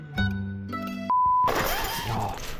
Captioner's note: beeping